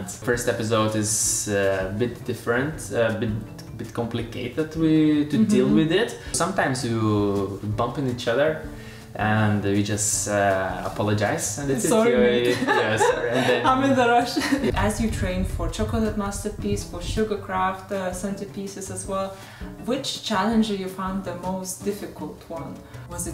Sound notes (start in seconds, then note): 11.9 laughs